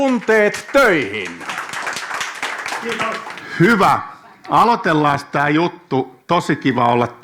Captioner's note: applause from the audience